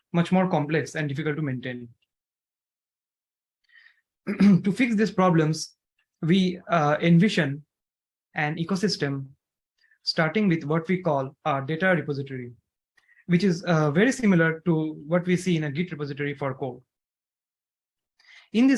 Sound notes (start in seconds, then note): 4.2 clears throat